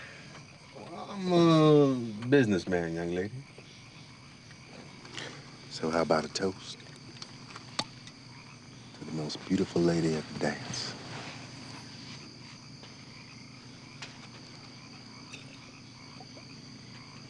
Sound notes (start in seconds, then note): 13.3 insects chirping